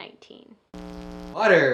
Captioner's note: static sound